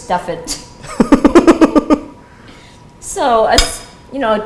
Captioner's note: laughs